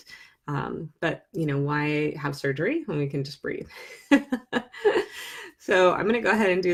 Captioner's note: laughs